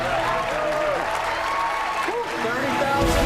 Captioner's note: cheers and applause